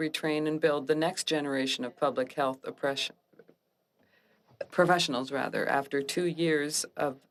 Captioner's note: speaking French